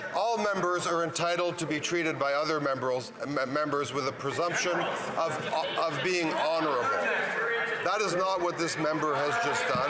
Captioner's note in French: voix de l'interprète